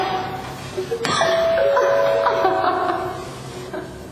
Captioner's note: doorbell